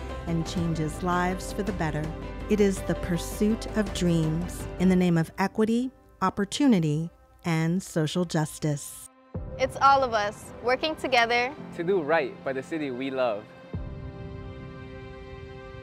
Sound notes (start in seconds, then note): none